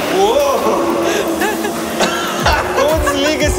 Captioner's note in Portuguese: os dois riem